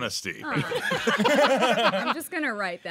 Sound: everyone laughing

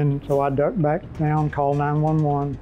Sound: whooshing

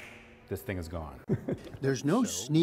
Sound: laughter

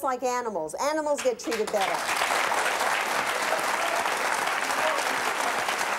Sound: applause

